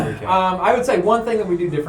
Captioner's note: clears throat